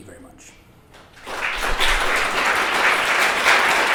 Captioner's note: applause